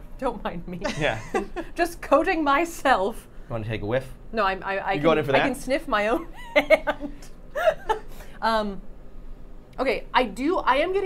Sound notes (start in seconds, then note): 0.8 laughing; 7.5 Safiya laughing